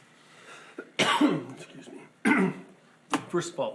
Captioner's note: coughs